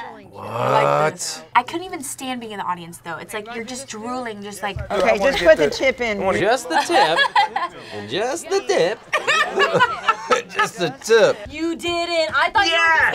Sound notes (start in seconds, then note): 6.7 laughs; 9.0 both laugh